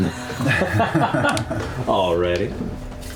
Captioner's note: laughter